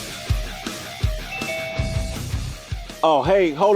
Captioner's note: video conference alert